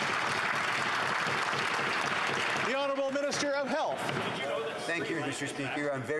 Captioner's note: some Applause